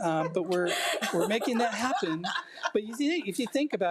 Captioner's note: board laughing